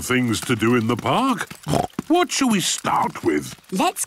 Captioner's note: snorts